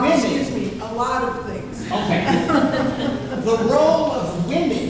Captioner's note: laughing